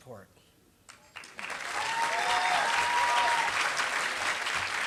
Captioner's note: applause